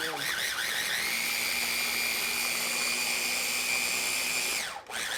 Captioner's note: food processor whirring